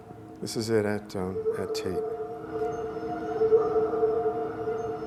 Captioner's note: distorted wolf whimpers